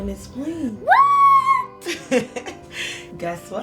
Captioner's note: yelling